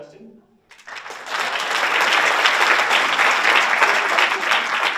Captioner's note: audience applauds